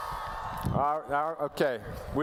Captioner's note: cheering